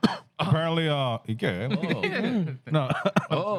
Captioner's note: speaking Spanish